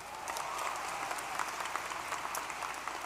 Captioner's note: applause